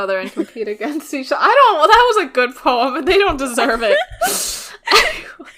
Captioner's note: laughs; laughing